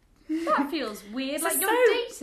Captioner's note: laughs